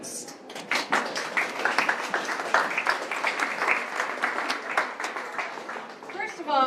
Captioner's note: applause